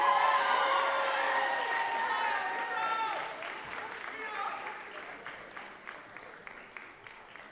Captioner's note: cheering dies down and then starts back up